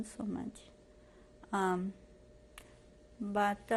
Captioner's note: pauses for 3 seconds